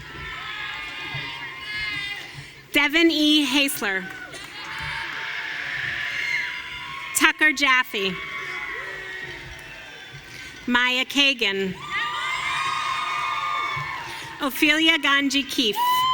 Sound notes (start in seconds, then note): 0.0 audience cheering; 3.9 audience cheering